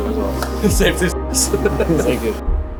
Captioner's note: laughs